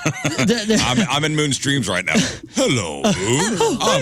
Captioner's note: laughing